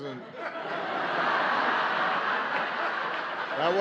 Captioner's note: laughter